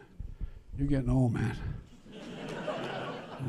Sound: laughter

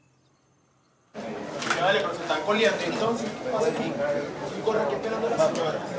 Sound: inistinctive medical chatting

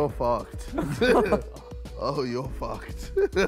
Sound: laughing

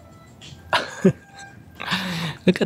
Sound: chuckles

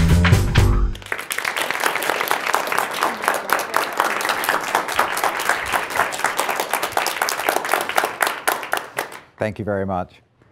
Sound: applause

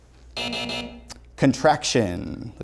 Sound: buzzer sounds

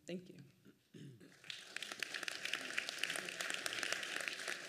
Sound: applause

